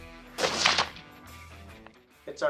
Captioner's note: gunshot